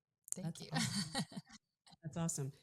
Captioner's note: laughs